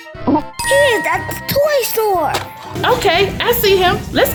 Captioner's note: magical ting